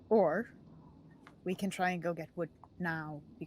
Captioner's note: none